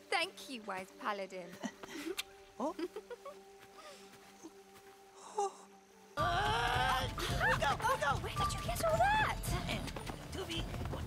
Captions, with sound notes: - Thank you, wise paladin. (kisses) - Oh! (laughs) - Agh! We go! We go! - Where did you get all that?